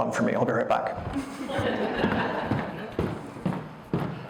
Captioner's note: audience laughter. Footsteps crossing stage